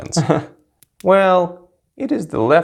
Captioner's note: nervous giggle